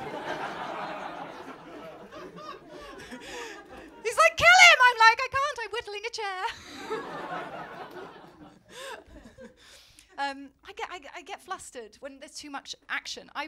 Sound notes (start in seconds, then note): 0.0 laughter; 6.4 laughter